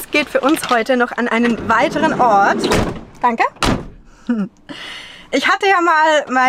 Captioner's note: door closes